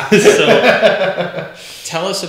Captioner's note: laughs